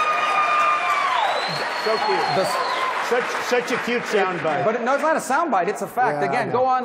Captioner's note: applause